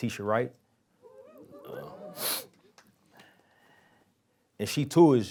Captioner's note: audience cheering